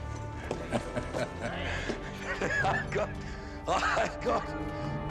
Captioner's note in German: Lacht